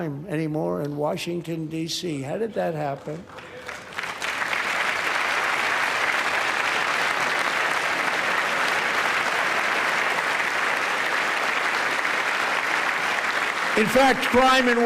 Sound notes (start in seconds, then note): 8.9 applause